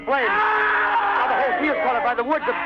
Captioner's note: person screaming